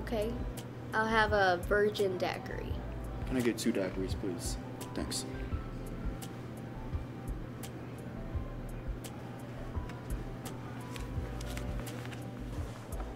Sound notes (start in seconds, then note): none